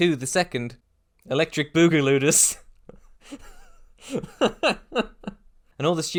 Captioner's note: laughing